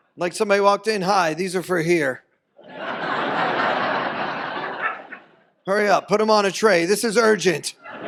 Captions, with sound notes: Like somebody walked in, "Hi, these are for here. (audience laughs) Hurry up, put 'em on a tray. This is urgent."